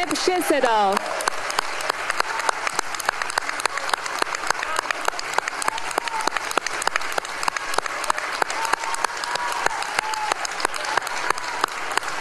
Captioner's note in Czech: applause